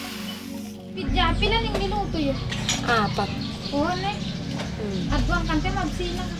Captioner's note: converses in Mag-indi